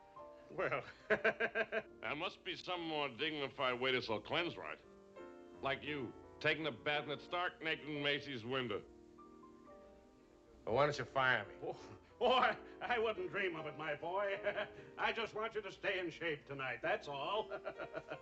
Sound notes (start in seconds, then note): 11.5 scoffs; 14.6 giggles